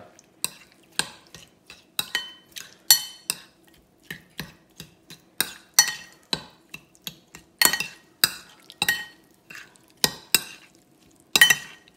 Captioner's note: mixing sound